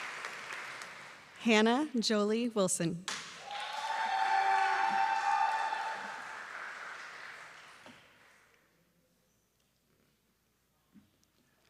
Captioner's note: applause; cheering